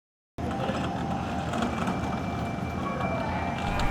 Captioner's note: door whirs